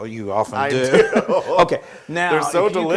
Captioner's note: laugh